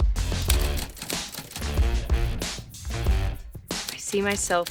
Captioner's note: upbeat music; typewriter keys clacking